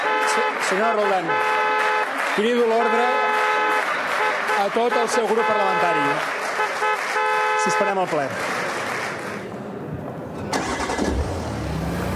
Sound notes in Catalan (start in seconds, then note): 3.6 clàxon